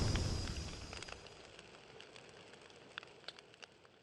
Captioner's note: fire crackles